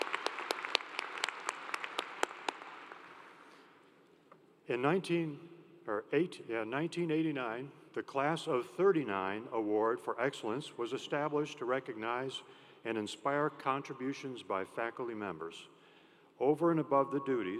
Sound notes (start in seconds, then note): 3.7 applause